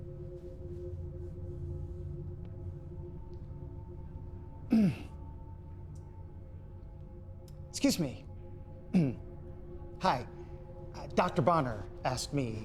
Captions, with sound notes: (slow suspenseful music continues) (Sam clears throat) - Excuse me. (clears throat) Hi. Uh, Dr. Bonner asked me